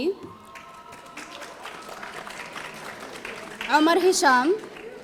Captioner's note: audience applauding